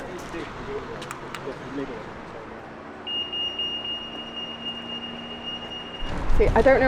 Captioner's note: crossing beeping